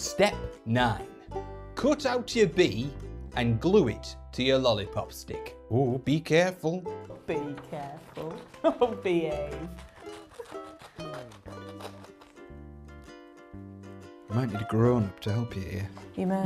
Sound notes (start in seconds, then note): 8.1 laughs